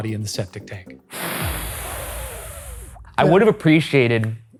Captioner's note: air blowing